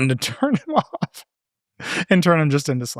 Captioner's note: laughing